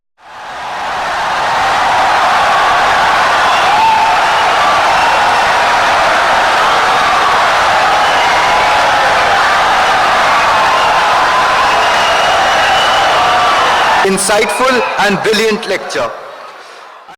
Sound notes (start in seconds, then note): 2.5 wild applause and cheering for 17 seconds